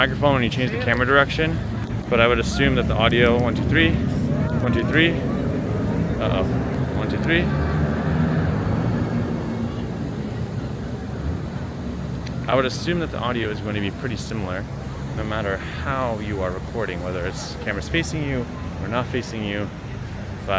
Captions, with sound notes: when you change the camera direction. But I would assume that the audio... 1, 2, 3. 1, 2, 3. Uh oh. 1, 2, 3. (car engines roaring) (background chattering) I would assume that the audio is gonna be pretty similar. No matter how you are recording. Whether the camera is facing you or not facing you.